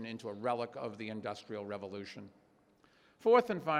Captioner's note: none